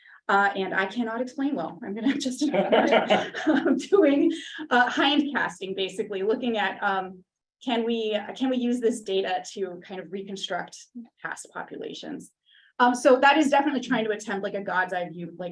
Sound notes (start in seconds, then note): 2.1 participant laughing